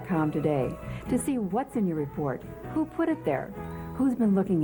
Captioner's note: none